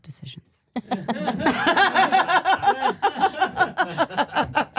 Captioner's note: all laughing